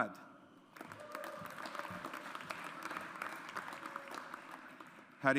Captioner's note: audience applauds